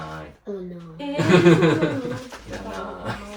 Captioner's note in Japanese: 笑い